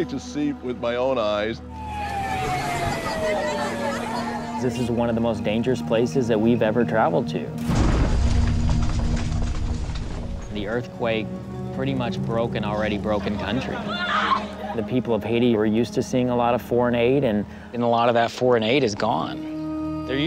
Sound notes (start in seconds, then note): 1.6 siren wailing; 13.8 woman screams